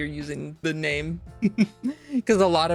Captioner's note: laughs